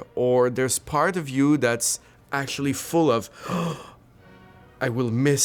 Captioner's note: gasps